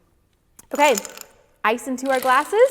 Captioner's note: ice clatters